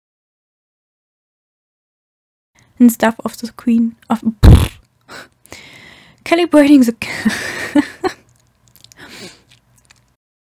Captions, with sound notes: and stuff off the screen of the calibrating the *nervous laugh*